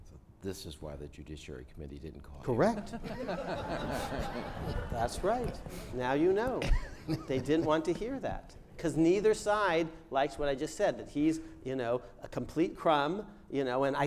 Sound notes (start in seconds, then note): 2.8 crowd laughs